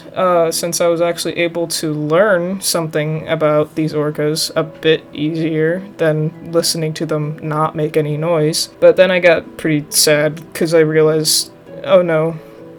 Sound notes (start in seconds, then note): none